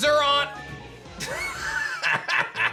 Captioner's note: laughs